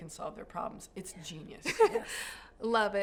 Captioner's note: laughter